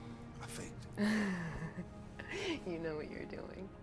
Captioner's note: Nikita laughing